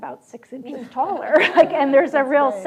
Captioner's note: audience laughs